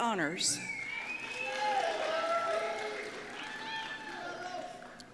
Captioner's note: applause and Cheers